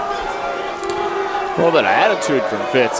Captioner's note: crowd booing